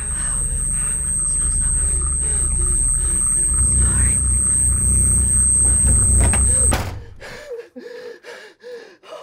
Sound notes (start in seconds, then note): 3.4 high pitched humming; 5.9 body thumps; 6.9 Carlos breathing heavily